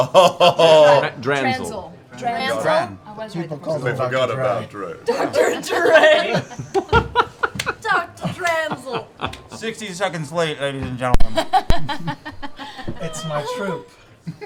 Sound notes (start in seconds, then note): 5.1 laughing; 5.7 laughter